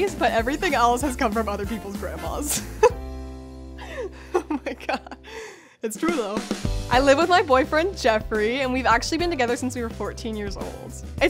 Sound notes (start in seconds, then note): 3.8 laughs